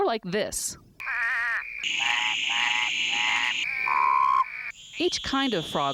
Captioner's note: amphibian sounds